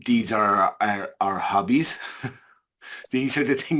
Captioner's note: chuckles